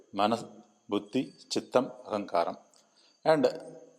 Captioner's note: in Tamil